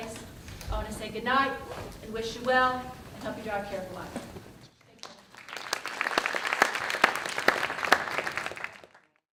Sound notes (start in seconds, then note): 4.7 audience clapping